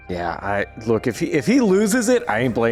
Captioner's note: none